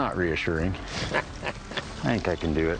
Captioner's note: chuckles